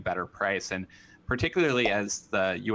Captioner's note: popup pops